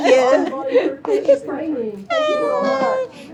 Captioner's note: murmurs